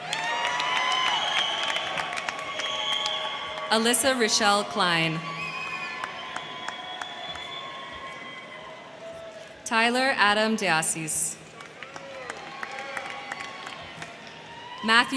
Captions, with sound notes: (crowd cheering) (crowd clapping) Alyssa Rochelle Cline. (crowd cheering) (crowd clapping) Tyler Adam Diasis. (crowd cheering) (crowd clapping)